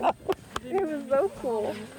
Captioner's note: laughs